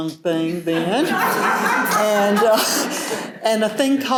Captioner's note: laughter